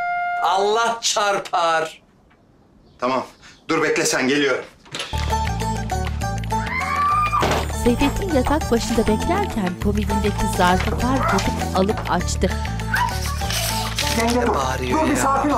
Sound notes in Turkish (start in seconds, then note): 6.6 Bağırma sesi; 12.8 Bağırma sesi